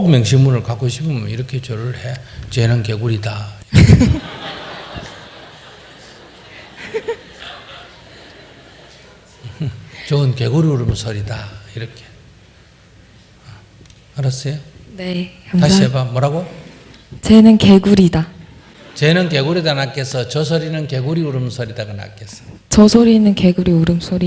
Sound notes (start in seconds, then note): 3.8 questioner/Audience Laughter